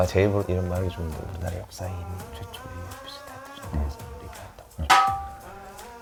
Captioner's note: whispering instructions to seung min